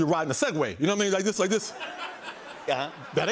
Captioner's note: laughter